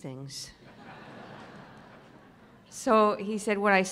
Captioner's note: laughing